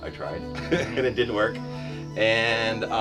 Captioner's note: laughs